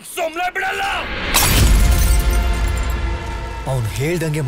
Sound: bottle Sound

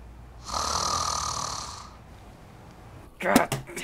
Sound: loud snoring

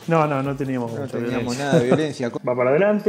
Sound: hahaha

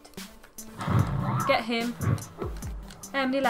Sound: flame sound

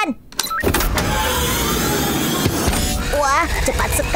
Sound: mechanical whirring

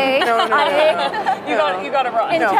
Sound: laughter

